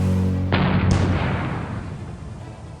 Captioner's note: huge explosion